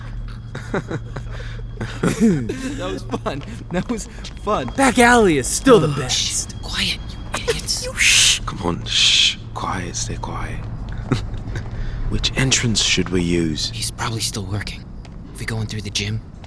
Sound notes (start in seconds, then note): 6.4 hushed; 7.1 giggling